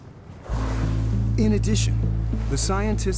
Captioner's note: gentle music; water spraying